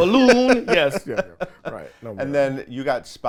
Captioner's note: laughs